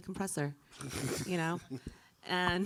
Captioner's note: chuckling